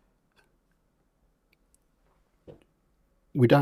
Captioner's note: silence